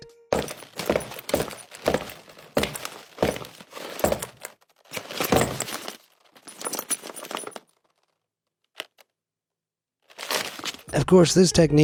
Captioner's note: footsteps thuds